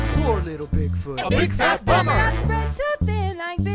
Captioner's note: crowd